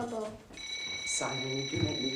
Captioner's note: door bell